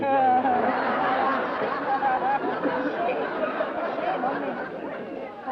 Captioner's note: laughter